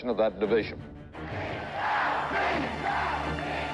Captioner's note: chanting